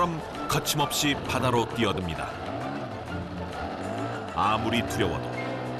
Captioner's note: A boat cutting through the rough waves